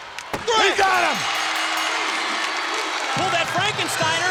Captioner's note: bell rings